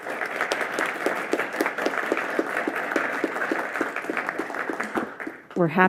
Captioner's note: claps